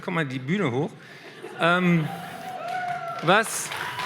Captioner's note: applause